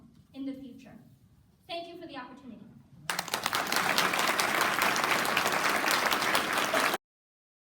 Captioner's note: applause